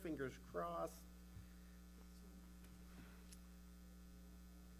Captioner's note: mic humming